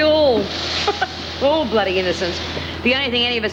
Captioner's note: laughs